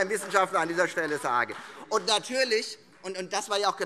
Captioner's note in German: Beifall Freie Demokraten